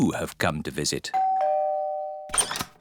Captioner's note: doorbell rings